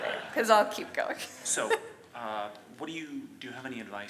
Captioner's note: audience laughs; laughs